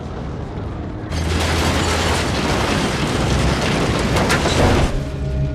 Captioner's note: tank crushing truck; dramatic music